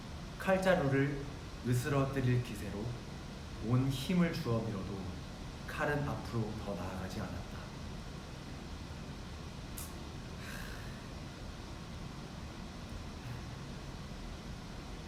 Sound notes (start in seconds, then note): 10.4 sigh